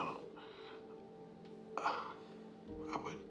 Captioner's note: dad struggles to speak